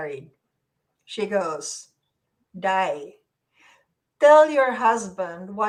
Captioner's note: speaks in foreign language